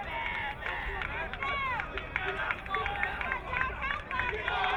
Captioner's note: crowd cheering